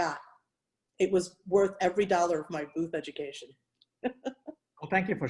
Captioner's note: chuckles